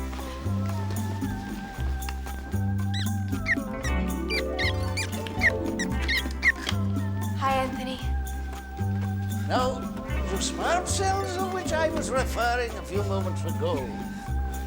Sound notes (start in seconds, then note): 0.9 jazzy music; 6.0 mouse squeaks